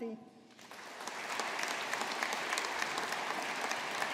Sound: audience applauding

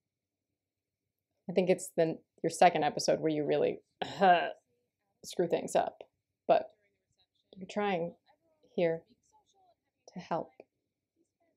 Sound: coughs

